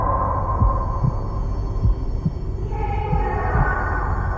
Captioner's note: eerie voices